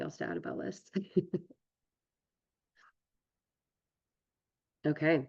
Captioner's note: laughs